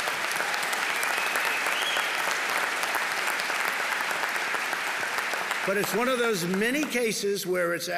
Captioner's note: applause